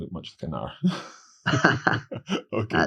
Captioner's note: laughing